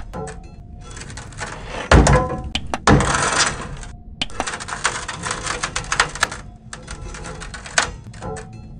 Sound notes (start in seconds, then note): 0.0 scrapping metal